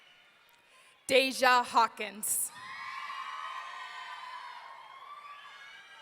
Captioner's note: audience cheering